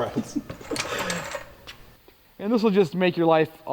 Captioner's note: both laughing